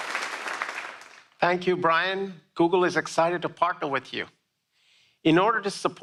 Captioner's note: applause